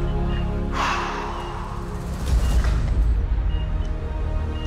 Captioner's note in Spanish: Suspiros